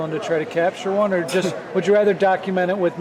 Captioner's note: laughing